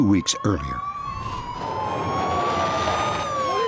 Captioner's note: sirens